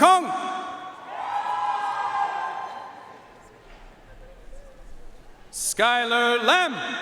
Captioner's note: audience cheering and applauding